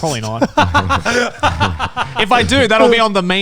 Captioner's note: laughs